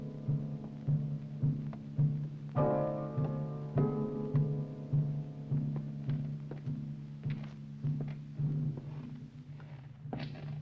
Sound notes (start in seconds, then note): 3.8 footsteps thudding